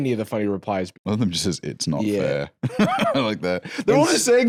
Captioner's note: laughs